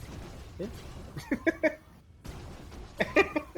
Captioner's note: chuckles